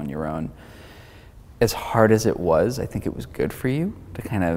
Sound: inhaling

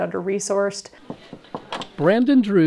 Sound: knocking

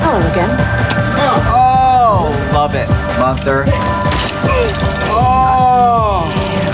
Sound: beep

